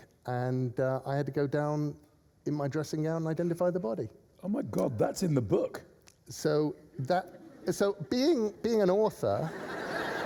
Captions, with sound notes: ''and I had to go down in my dressing gown and identify the body.' — Oh, my God, that's in the book! — So that... — (LAUGHTER) — So, being an author...